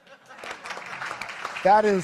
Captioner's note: audience clapping